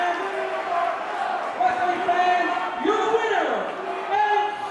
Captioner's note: crowd cheering